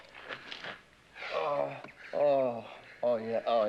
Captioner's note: groans in pleasure